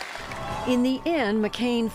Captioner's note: applause